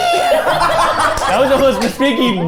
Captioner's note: group laughing